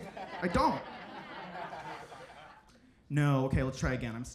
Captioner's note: audience laughs